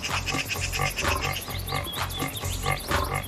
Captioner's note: birds chirping